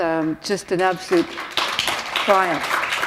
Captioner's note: applause